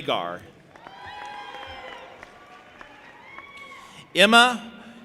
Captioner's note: audience applauding and cheering